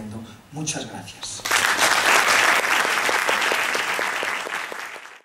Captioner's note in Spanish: Aplausos